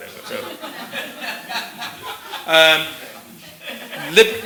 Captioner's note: laughter